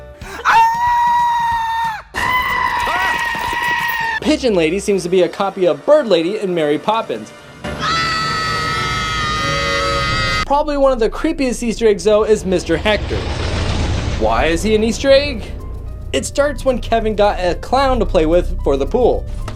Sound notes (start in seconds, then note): 0.2 Marv screams; 0.3 goat screams; 7.8 Kevin screams